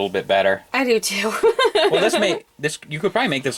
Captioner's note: laughs